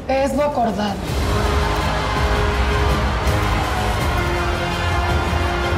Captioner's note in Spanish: Gritos y exclamaciones